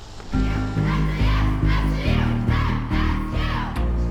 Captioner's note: team chants